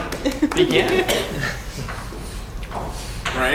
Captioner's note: laugh